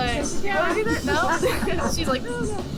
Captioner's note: laughs